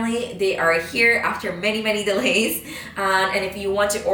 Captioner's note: chuckles